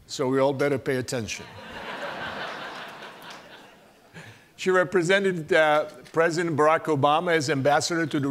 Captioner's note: laugh